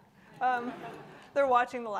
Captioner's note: audience laughing